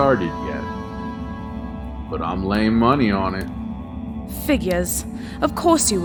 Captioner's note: snidely